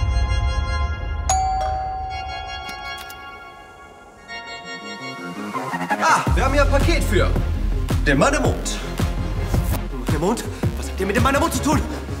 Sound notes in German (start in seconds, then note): 1.2 Tür klingelt